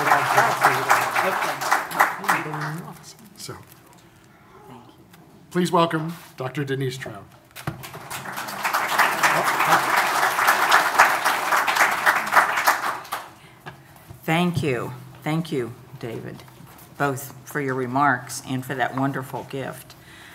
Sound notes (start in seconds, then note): 7.6 audience applauding